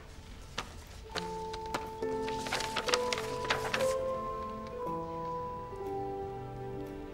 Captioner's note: paper rustling; somber music